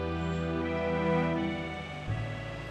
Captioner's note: none